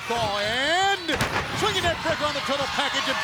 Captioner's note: bodies thudding